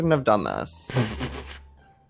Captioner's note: laughs